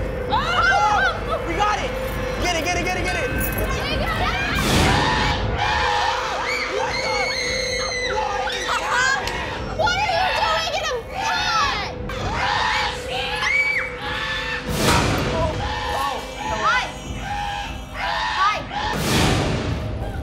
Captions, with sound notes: Oh! We got it! - Get it, get it, get it, get it! - She got it! [screaming] What is happening? What are you doing in a pot? [screaming] - Oh. - Hi. Hi.